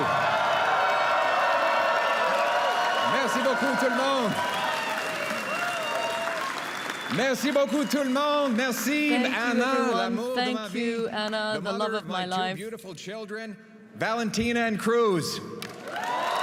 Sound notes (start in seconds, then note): 0.3 applause; 2.0 cheers; 10.8 applause